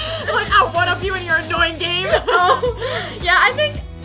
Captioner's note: laughs